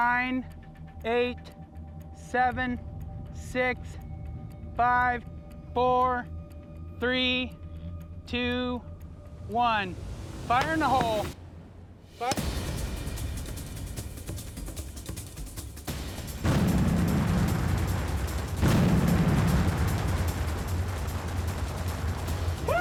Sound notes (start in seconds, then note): 12.8 clank; 16.4 large explosion